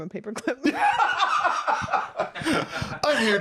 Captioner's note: laugh